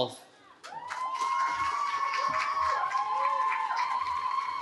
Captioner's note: cheering